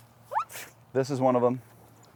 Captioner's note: squeaks